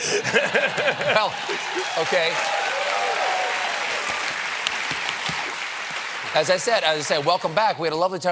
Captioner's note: cheers and applause